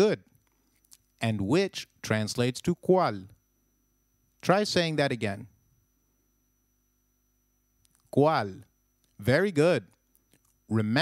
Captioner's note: long pause; long pause